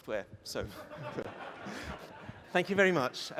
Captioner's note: laughter